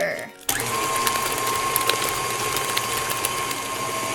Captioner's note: whirring